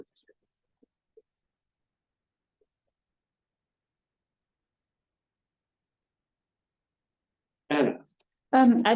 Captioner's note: silence